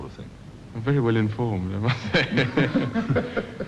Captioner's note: laughs